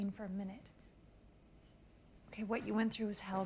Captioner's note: crickets chirping